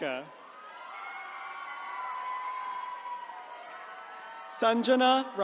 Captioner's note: attendees cheering